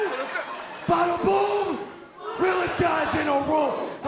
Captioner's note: cheers & applause